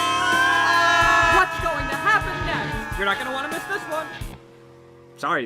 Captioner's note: screams; screaming continues